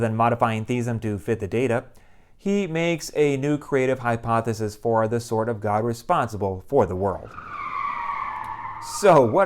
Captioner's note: car skidding